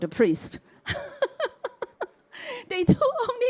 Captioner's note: chuckles